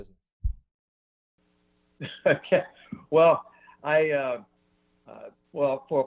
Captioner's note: laughs